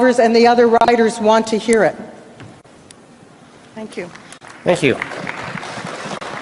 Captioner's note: applause